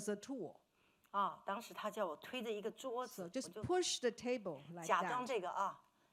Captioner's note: speaking Mandarin